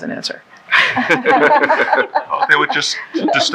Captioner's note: laughing